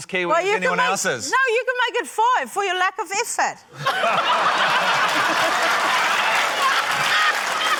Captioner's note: laughter, applause